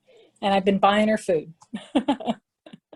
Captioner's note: laughs